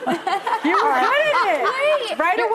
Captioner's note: audience laughing